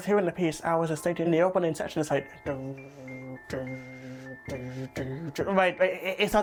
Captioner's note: humming a beat